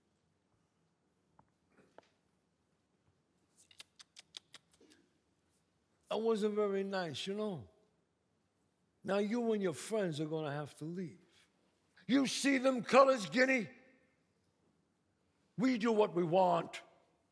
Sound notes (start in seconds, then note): 0.2 footsteps; 3.1 tuts